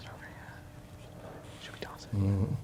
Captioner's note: whispering